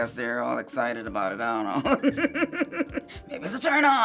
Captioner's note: laughs